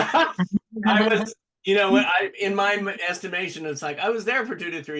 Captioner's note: laughter